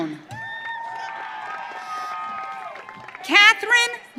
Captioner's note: audience cheering